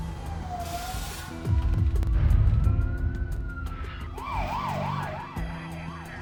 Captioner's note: sirens wailing